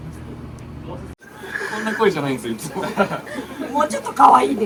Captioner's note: laugh